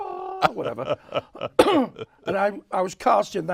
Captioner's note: laughs; clears throat